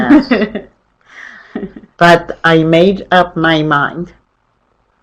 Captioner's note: chuckles